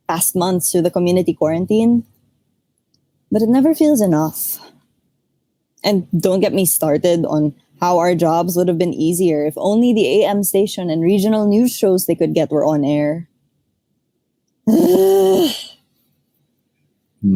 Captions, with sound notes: in the past months through the community quarantine. But it never feels enough. And don’t get me started on how our jobs would’ve been easier if only the AM station and regional news shows they could get were on air... [Frustrated groan]